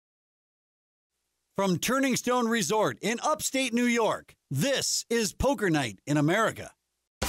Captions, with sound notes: - [Voiceover] From Turning Stone Resort in Upstate New York, this is Poker Night in America.